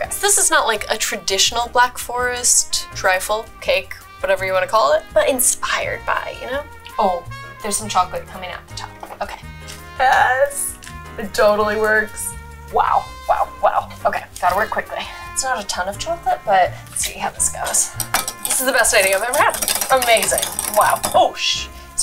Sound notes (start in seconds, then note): 17.4 whisking